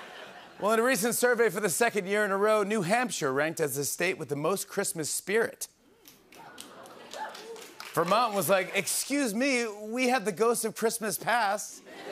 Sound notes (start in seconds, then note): 0.0 laughter; 7.1 scattered cheers